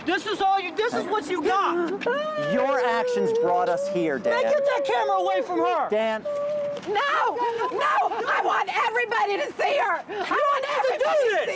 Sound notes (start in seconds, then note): 2.0 crying